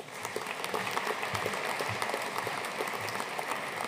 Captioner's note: audience applauding